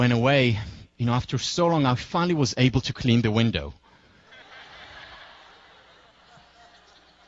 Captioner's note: laugh